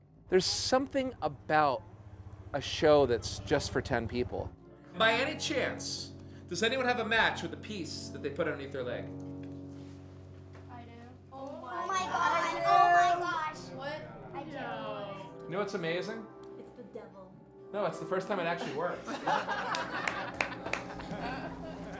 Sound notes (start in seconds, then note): 11.7 crowd gasps; 18.9 crowd laughs